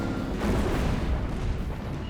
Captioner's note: explosion